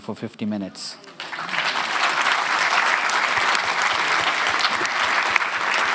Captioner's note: audience applauding